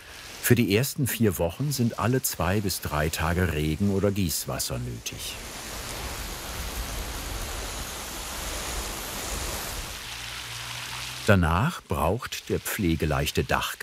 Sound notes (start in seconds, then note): 5.1 rustling, crackling